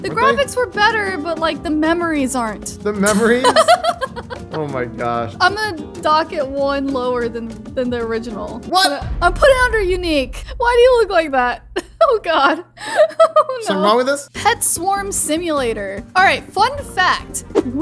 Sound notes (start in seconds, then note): 3.4 laughs